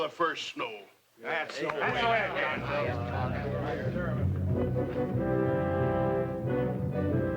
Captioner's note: men chatter; moody orchestral music